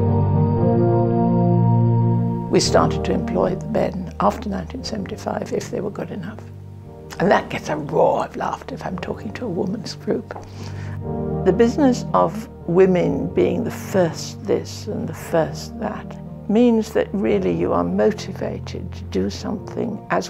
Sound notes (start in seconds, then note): 2.6 voiceover